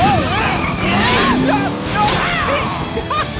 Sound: screaming; roaring

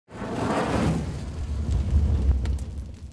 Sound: fire crackling

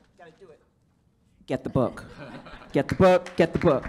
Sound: audience laughs

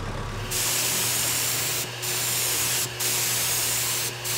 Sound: spraying paint

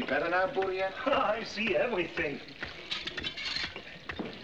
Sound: laughs

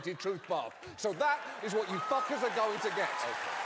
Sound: audience applause

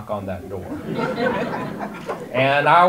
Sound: audience laughter

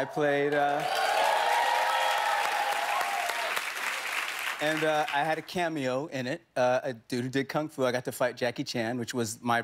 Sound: cheers and applause

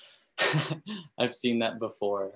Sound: giggling

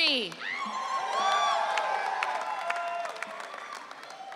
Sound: audience cheering

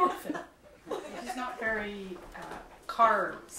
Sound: laughter; laughing

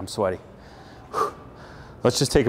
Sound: breathing heavily

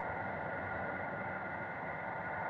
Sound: low hum

